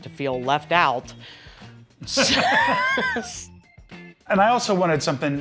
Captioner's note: laughter